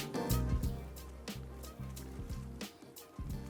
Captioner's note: footsteps